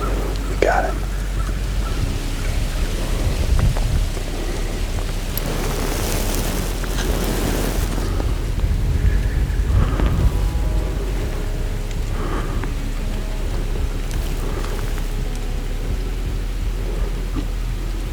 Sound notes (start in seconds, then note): 1.8 light wind; 11.7 soft music